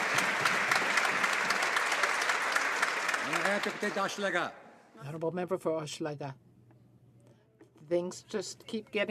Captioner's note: some Applause